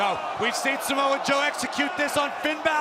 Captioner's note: crowd cheering